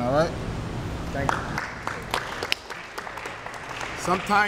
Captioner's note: applause